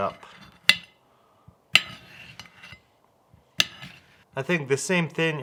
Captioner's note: knife tapping glass noises